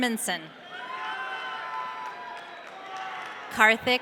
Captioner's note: audience cheering